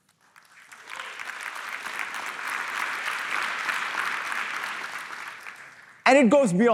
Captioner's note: applause